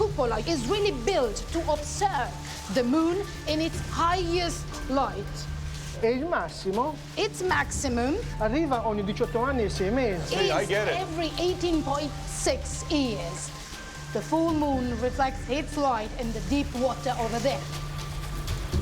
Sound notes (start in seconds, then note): 5.0 speaking Italian; 8.2 speaking Italian